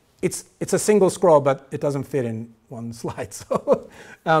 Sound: chuckling

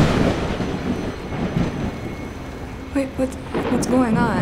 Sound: thunder cracking

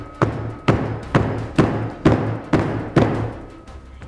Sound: hammering

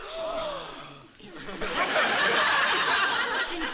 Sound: gasping

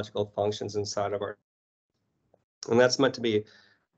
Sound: audio drops

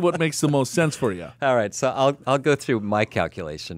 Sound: laughs

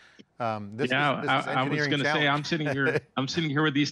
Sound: chuckles

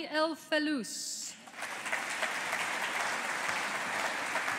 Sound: audience applauding

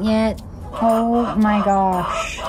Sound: chickens clucking loudly

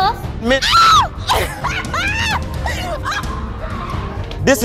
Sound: screaming; laughing

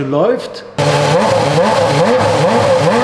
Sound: engine sound

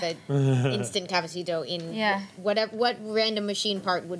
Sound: none

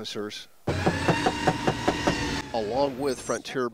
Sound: door knocking

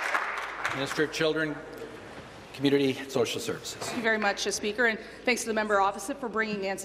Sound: applause

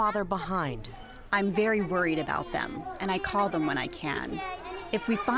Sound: through translator

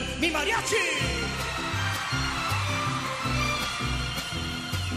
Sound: cheering

